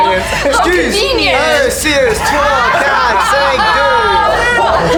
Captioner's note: laughter